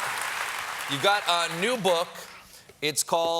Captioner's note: cheers and applause